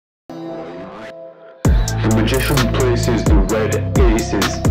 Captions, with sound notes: (guitar twanging) (tape rewinding) - The magician places the red aces